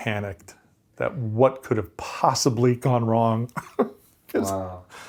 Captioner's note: laughs